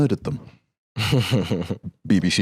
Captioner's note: laughs